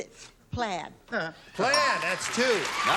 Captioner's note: ding